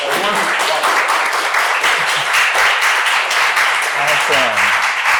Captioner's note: applause